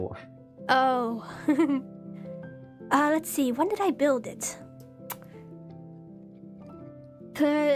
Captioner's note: giggles